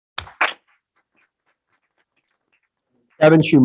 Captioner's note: group applauding